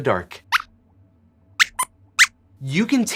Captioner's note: squeaks squeaks